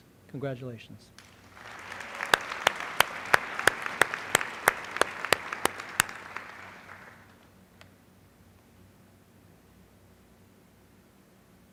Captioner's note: applause